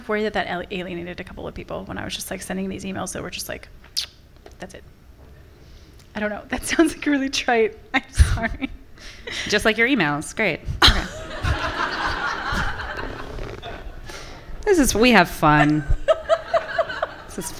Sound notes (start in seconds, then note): 10.8 everyone laughing; 15.5 audience members and laughing